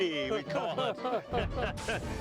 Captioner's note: group laughs